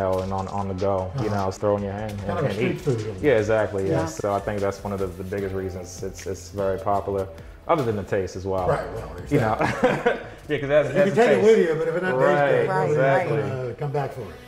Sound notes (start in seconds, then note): 9.4 laughs